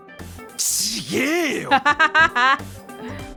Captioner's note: chuckles